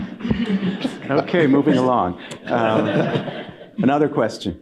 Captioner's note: laughter